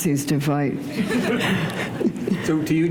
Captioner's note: laughter